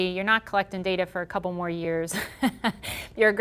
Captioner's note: chuckling